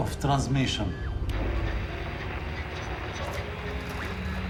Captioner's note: static hisses